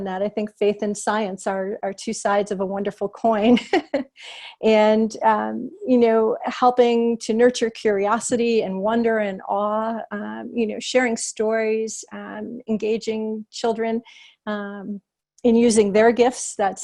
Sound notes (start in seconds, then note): 3.5 laughter